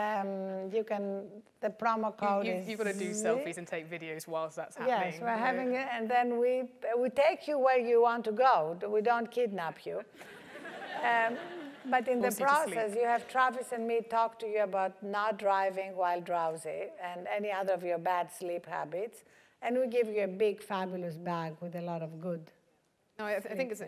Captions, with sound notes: you can, the promo code is- >> You've gotta do selfies and take videos while that's happening. >> Yeah, right, having it, and then we take you where you want to go, we don't kidnap you. >> [LAUGH] >> But in this process, you have Travis me talk to you about not driving while drowsy and any other of your bad sleep habits And we give you a big fabulous bag with a lot of good things in it.